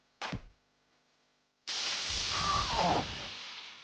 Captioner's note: electric shock